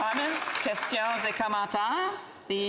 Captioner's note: some Applause